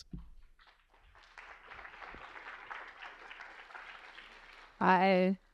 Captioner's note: applause